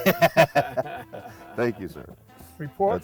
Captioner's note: laughing